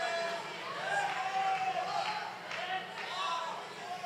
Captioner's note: applause